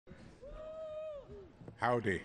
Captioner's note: cheers